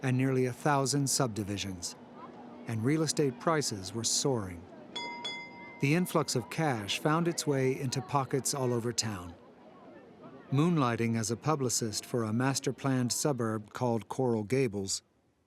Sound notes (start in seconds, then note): 4.9 trolley bell dinging